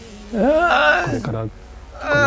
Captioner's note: Katya groans